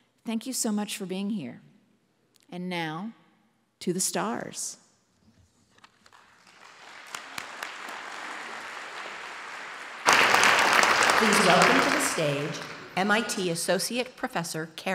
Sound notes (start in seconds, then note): 5.8 applause